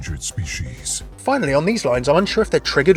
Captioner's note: voiceover